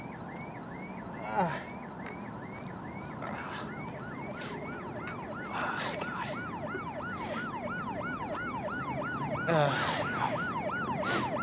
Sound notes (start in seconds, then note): 1.2 groaning; 4.3 cop car siren getting louder